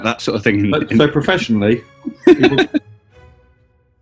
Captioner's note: laughing